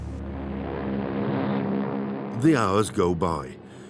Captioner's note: engines rumbling